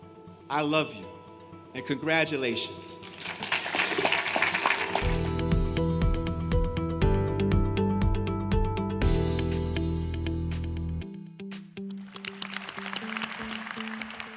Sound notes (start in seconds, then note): 5.9 applause